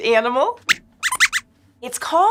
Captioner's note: squeaks squeaks